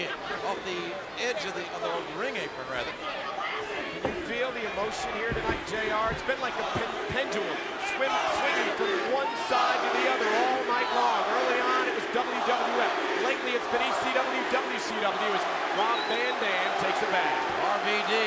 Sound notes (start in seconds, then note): 12.7 crowd chanting